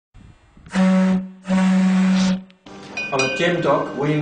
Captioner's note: sound of ship's honk